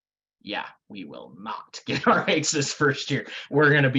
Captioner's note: laughing